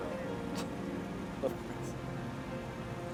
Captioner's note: scoffs; soft tense music